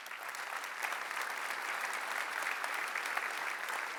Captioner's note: applause